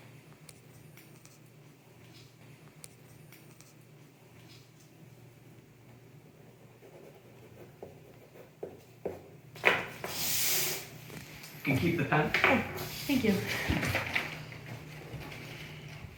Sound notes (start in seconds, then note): 7.1 pen scraping; 9.6 pen banging; 9.6 paper rustling